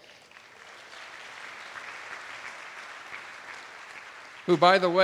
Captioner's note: attendees applauding